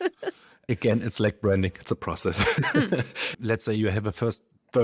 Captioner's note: laughs; laughs